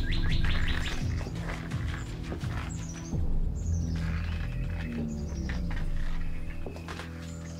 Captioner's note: suspenseful music continues; footsteps thud